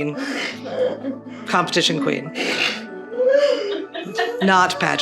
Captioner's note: <i> laughter in background</i>